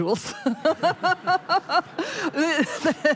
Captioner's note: laughter